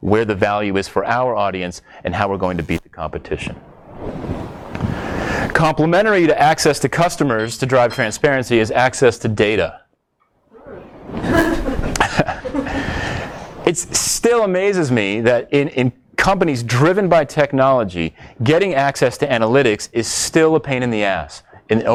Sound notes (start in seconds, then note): 11.0 audience laughs